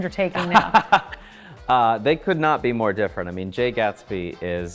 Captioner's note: laughs